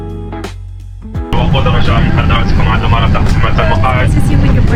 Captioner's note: in-flight announcement sound